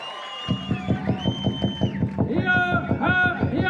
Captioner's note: cheering and applause